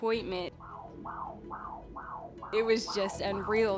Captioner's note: baby's heartbeat pulsing